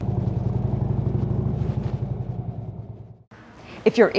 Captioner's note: motorcycle engine running